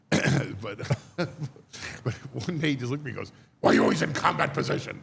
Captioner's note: laughs